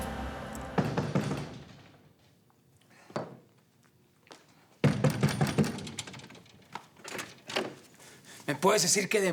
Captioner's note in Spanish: Toques en la puerta